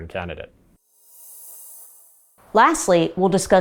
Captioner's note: logo whooshing